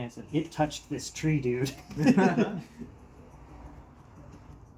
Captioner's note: chuckles